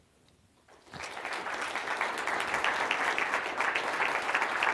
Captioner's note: applause